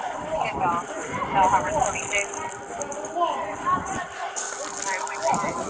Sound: background hollering; radio dispatching in background

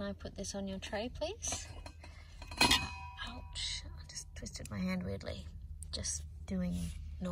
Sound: metal clangs

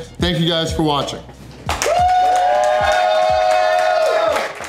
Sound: crowd cheering

